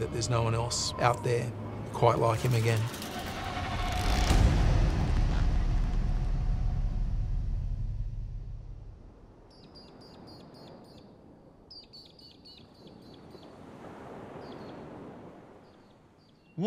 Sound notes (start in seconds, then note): 11.6 birds chirping; 13.3 waves rolling softly